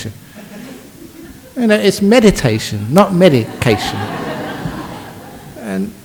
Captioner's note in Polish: śmiech